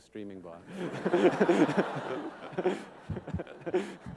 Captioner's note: laughter